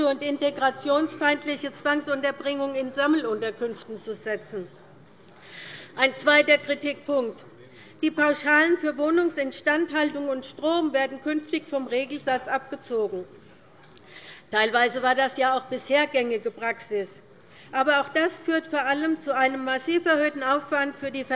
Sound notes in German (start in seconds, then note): none